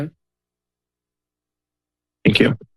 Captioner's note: silence